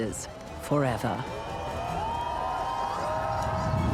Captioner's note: crowd cheering